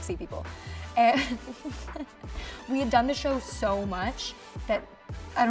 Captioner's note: laughing